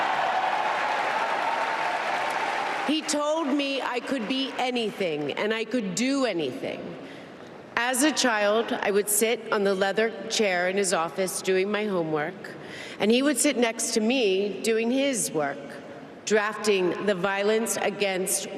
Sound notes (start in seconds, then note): 0.0 applause